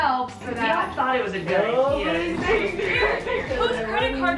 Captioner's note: group talking